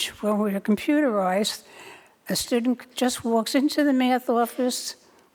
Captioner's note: none